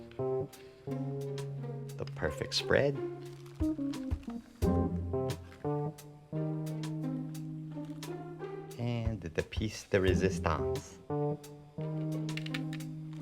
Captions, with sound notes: The perfect spread. (packet rustling) (upbeat groovy music) And the piece de resistance.